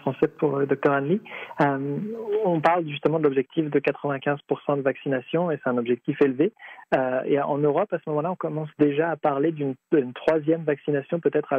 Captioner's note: speaking French